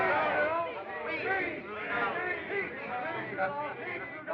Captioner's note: guests Shouting